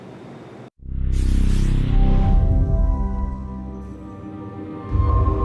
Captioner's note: whooshing sound